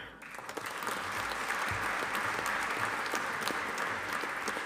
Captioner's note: audience applauding